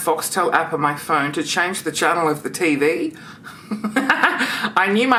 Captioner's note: laughs